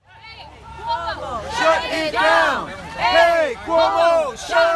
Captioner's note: chanting